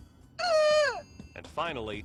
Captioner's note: dummy squeals